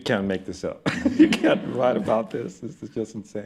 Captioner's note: laughs